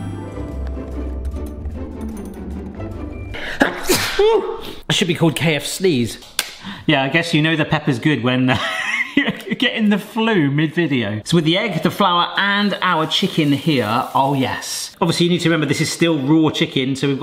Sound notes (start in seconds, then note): 0.0 light upbeat music; 3.5 sneezes